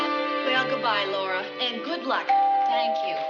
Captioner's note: doorbell